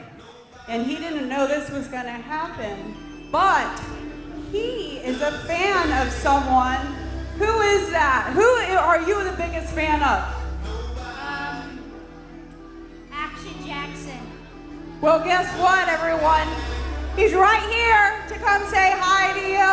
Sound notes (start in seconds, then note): none